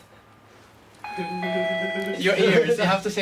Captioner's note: doorbell rings